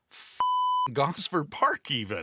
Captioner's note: beep